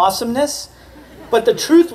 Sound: laughter

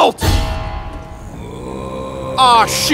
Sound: growls

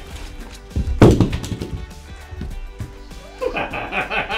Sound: body thumping; laughing

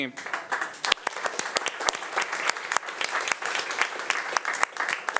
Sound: audience applauding

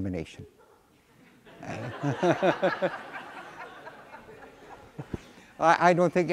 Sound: laughter

